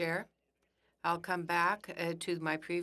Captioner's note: speaking French